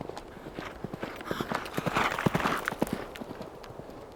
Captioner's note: galloping hoofbeats